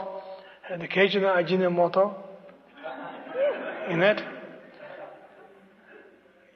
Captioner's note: laughter